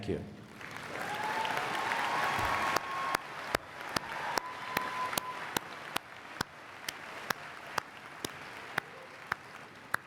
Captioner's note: applause and Cheering